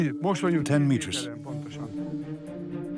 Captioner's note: man, dubbed in English